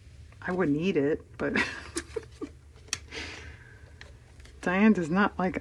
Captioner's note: laughs